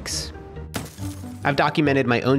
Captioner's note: phone crashing